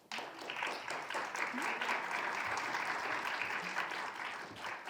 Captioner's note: audience applauding